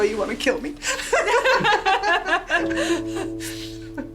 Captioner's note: laughter